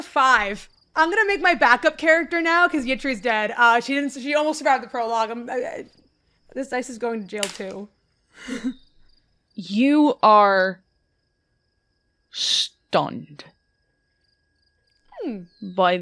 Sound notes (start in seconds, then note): 7.4 dice clacks